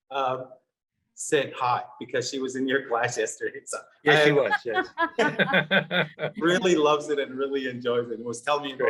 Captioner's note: laughter